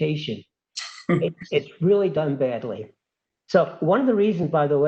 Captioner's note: laugh